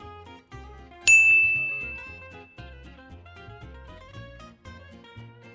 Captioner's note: bell rings; playful orchestral music